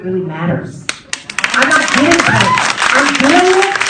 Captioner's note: applause from audience